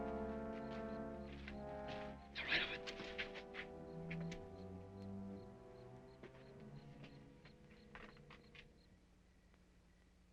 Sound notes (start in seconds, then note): 3.7 insects chirping